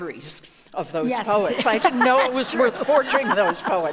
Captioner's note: laughs